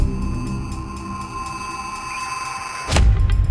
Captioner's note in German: Gleißender Ton